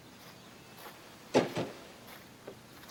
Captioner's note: birds chirping; door closes